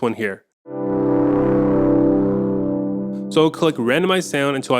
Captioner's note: low vibrating sounds